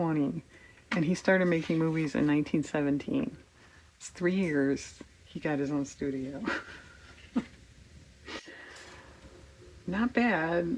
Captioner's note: laughs